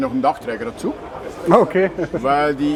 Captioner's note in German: lacht